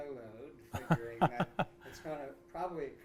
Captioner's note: laughter